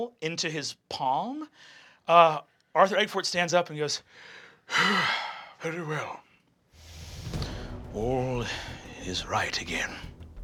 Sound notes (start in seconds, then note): 4.2 gasping; 6.8 triumphant music